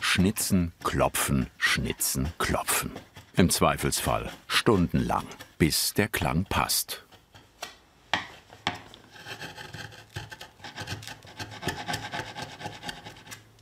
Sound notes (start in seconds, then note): 11.0 scratching noise